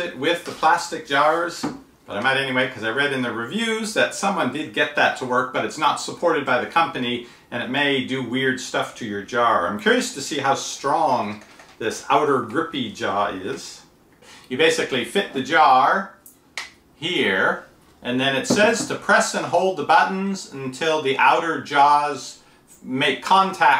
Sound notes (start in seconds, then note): none